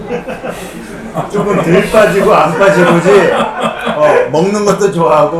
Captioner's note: failed to hold in laughter